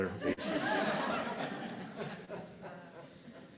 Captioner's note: laughter